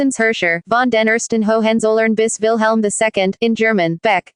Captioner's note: in German